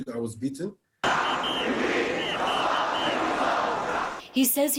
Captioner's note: shouting